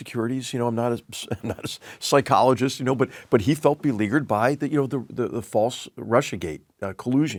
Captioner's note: laugh